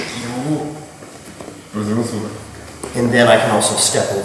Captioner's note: speaking in a foreign language